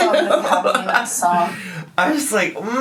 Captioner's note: laughing